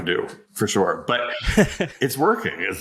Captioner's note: laughs